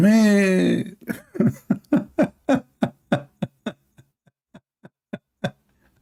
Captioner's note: Ketawa